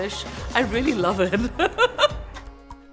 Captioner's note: laughs